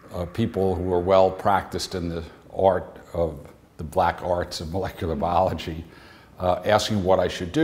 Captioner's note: chuckle